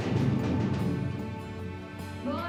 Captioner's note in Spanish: Toques en la puerta